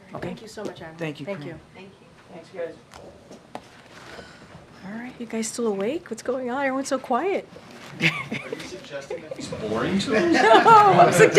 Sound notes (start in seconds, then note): 7.9 laughs; 10.1 laughter